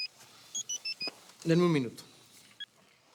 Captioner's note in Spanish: Suena el celular